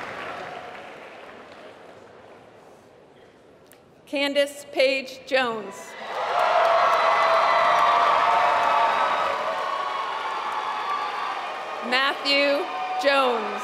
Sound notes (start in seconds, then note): 6.0 applause